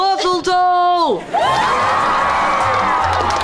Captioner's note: cheering